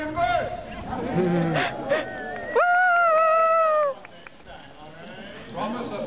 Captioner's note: cheering